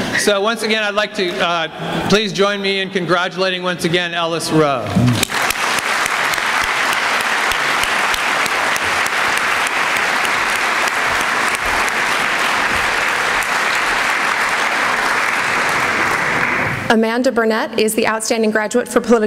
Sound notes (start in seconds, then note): 5.0 applause